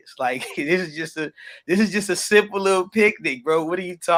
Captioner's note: chuckles